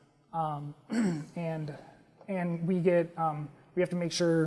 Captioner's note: cough